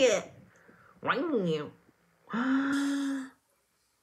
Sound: gasp

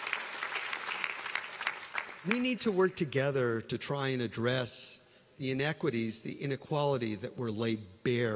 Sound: applause

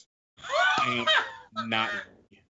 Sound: laughs

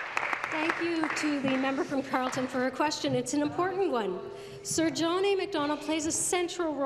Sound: applause

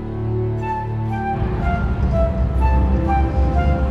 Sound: spacecraft rumbling

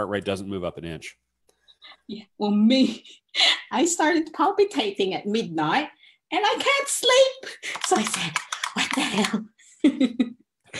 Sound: laughs

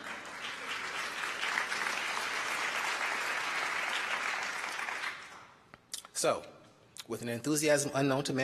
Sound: applause

